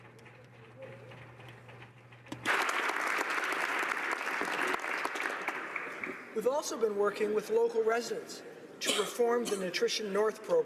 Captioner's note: applause